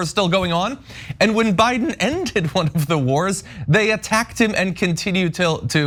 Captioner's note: laugh